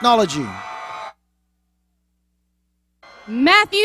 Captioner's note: cheers